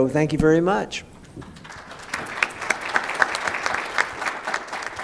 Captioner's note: applause